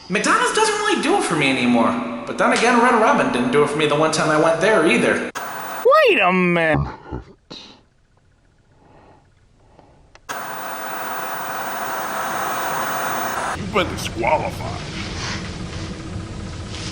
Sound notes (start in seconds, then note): 10.2 static buzzing